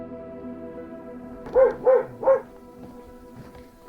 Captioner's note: dog barking